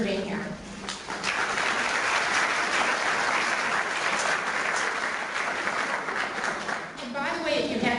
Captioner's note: clapping